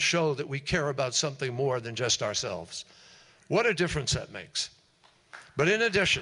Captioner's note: applause